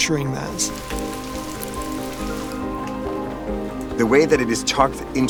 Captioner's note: rain gently pattering